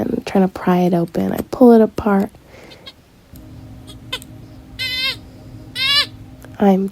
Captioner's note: doll crying sound